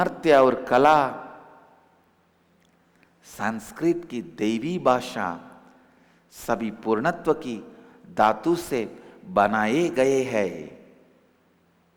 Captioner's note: hindi